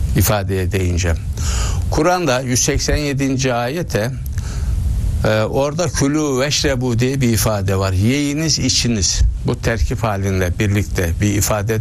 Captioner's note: كلوا واشربوا in Arabic